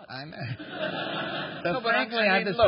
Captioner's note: laughter